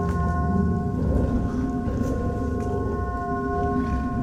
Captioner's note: eerie growling